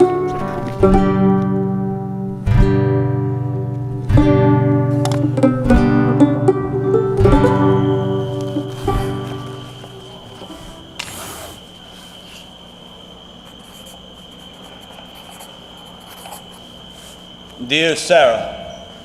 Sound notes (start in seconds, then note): 8.2 insects chittering; 11.4 candle holder scraping; 13.4 pencil rasping